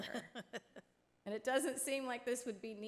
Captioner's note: laughs